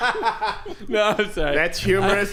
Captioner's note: laughing